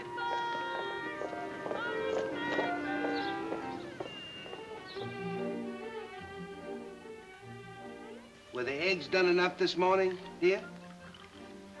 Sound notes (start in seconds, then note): 2.3 footsteps plodding; 4.1 birds chirping; 4.1 gentle music